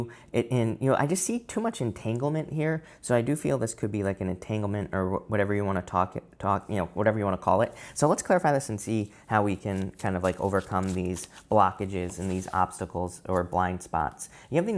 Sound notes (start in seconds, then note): 9.4 cards shuffling